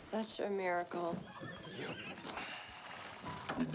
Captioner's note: horses whinny